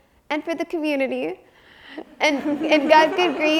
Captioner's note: audience chuckles